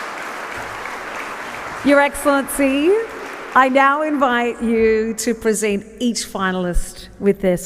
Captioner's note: applause